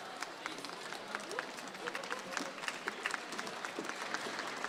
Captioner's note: audience applauds